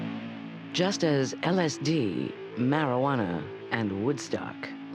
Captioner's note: voiceover